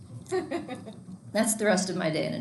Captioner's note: students laughing